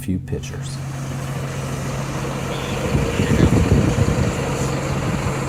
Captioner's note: trunk engine rumbling